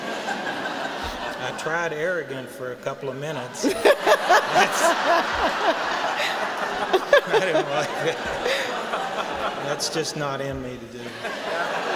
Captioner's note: laughing